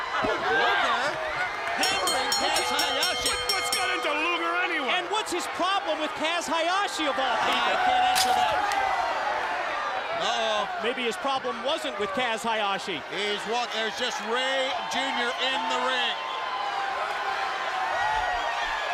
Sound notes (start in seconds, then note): 0.1 crowd cheering; 3.3 bell ringing; 10.2 crowd chatter; 17.3 crowd chatter